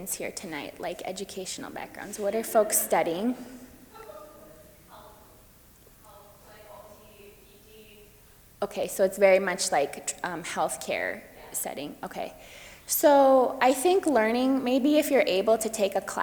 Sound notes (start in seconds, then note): 6.5 woman speaks off microphone